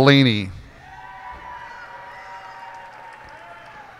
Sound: cheers and applause

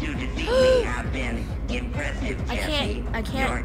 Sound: Sabrina gasps

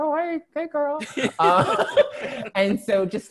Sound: laughter

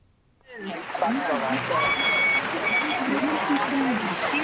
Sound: graduates applauding

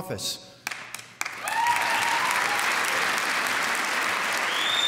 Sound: applause

